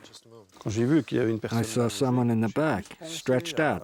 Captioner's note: speaks in foreign language